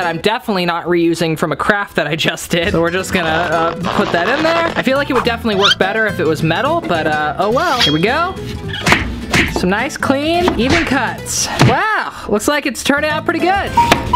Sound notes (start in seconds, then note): 9.3 chopping; 13.9 chopping